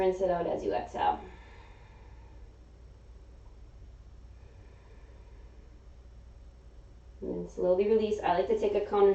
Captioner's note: exhaling